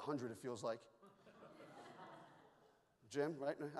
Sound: audience laughs

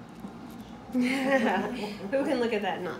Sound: laughing

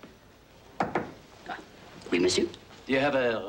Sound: knock on door

